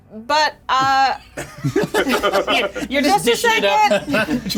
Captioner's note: players laughing